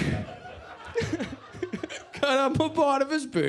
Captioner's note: laughs